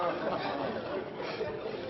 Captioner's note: laughter